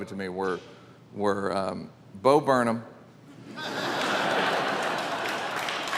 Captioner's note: audience laughing; audience applauding